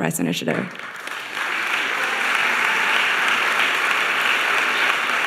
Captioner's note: audience applauding